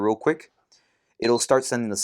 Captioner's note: beeping